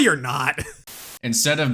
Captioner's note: static